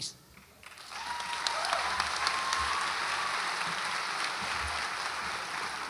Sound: audience applauds and cheers

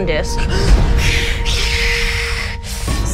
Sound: both hiss

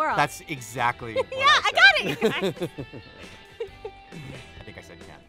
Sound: laughs

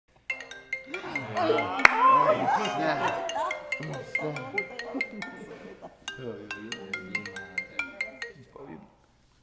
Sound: phone ringing

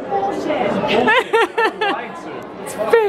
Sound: laughing

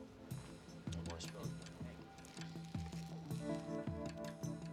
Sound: indistinct chatting

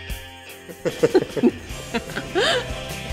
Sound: laughs

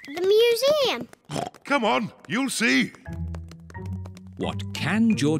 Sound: oinks

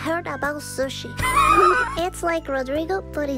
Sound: wheezes

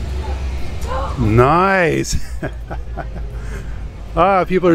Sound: laughs

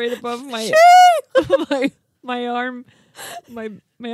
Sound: squeals

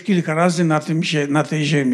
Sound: foreign language

